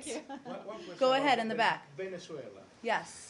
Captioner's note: laughter